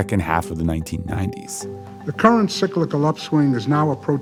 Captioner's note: soundbite of archived recording